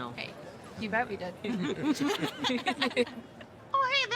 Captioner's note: all laughing